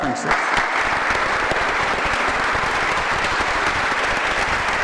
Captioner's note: audience applause